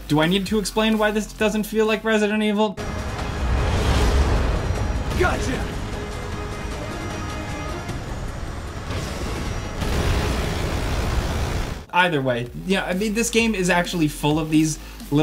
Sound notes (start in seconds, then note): 3.0 dramatic music; 8.8 gun firing